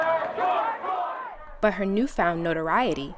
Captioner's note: protesters shouting indistinct